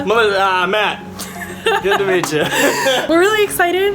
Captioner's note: laughing